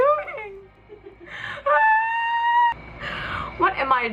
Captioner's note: screams hysterically